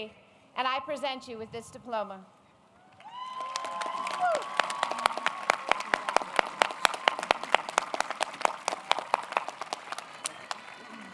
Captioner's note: applause